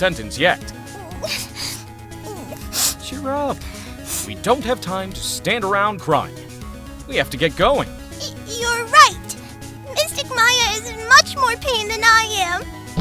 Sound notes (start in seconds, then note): 0.7 sniffling